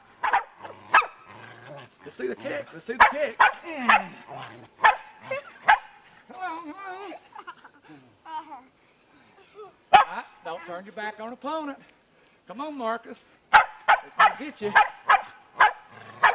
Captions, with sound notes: Let's see the kick, let's see the kick. (groan) Come on, come on. (Marcus laughing) Ah, don't turn your back on an opponent. Come on Marcus. I's gonna get ya.